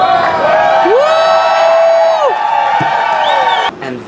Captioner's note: cheers